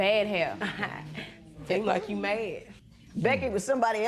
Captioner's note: chuckles